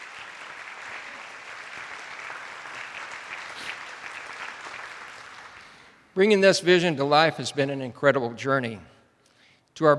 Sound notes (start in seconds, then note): 0.0 attendees applauding